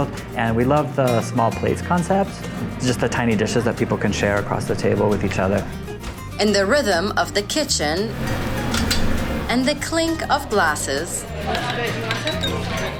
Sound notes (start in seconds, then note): 8.3 sound of meat grilling; 12.1 sound of ice clinking in glass